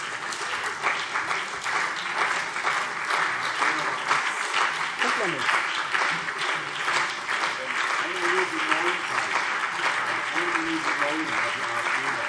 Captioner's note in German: Anhaltender Beifall CDU und BÜNDNIS 90/DIE GRÜNEN